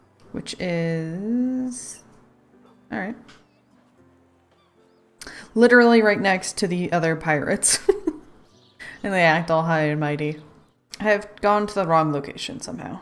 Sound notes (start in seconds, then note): 7.7 laughs